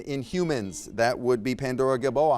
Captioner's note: buzzer beeps